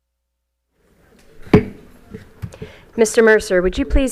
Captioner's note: gavel hitting dais